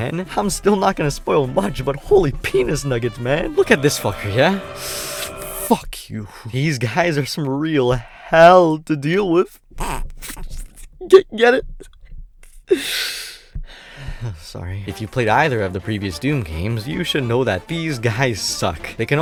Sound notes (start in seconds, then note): 3.5 inhales; 9.7 chuckles; 11.5 trying to hold laughter; 12.4 sighs